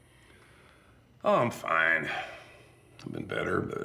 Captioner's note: sighs